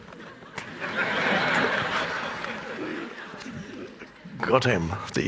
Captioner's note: audience laughing